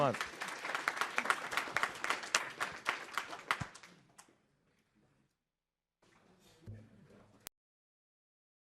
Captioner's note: applause